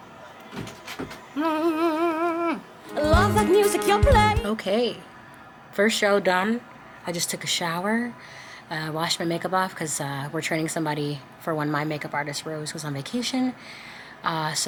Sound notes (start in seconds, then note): 1.4 humming